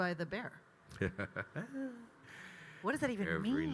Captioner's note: Kyle mischievously laughs